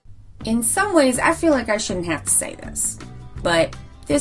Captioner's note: much more obvious Southern accent